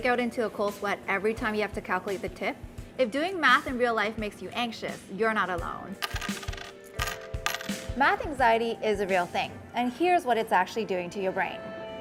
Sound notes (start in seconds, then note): 7.5 coins clinking